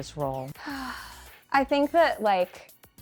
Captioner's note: sighing heavily